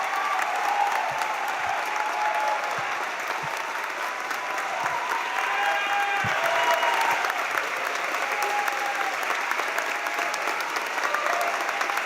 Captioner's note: cheers and applause